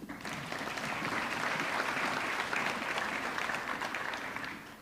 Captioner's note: audience clapping